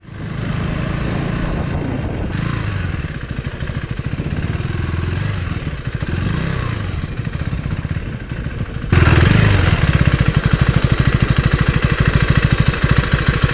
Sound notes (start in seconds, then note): 0.0 engine noise